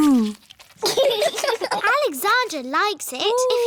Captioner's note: laughter